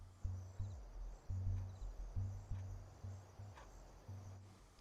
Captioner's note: insects chirping